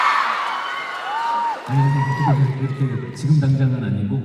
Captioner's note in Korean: 환호